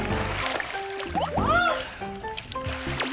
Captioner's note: splish, splash, splosh